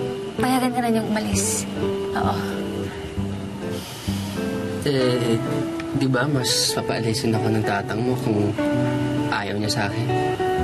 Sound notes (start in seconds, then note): 3.7 breathes deeply